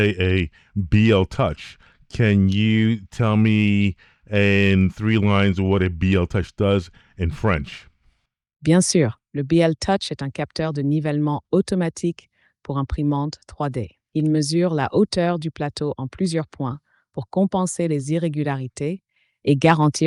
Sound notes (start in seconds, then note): 9.4 speaking In Foreign Language